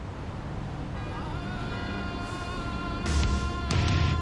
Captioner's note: car horns hooting; intense rock music